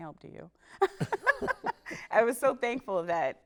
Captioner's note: laughs